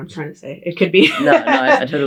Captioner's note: laughs